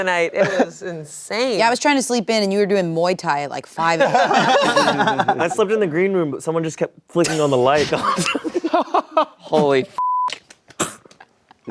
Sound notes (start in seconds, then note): 4.0 everyone laughing; 10.0 beep